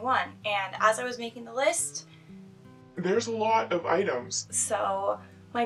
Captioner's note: deep voice